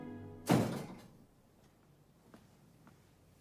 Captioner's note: door bangs